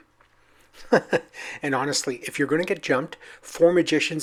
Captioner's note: laughs